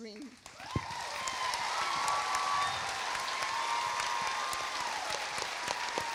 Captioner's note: audience applauding; audience cheering